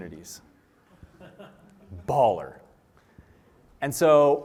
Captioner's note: laughter